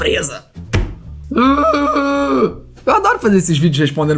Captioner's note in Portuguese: resmunga